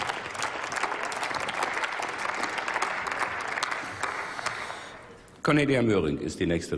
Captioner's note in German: Applaus